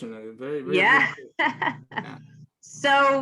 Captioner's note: laughs